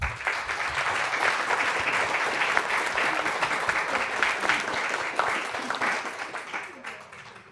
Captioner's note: applause